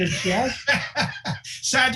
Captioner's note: laughing